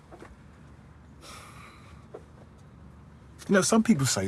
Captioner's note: he sighs